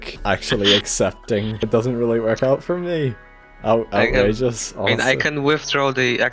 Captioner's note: laughing